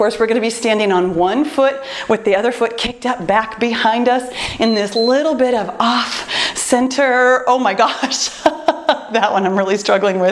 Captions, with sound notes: we’re going to be standing on one foot with the other foot kicked up, back behind us in [timer beeps] this little bit of off-center-- Oh my gosh, [laughs] that one I’m really struggling